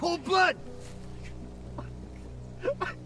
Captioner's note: judge crying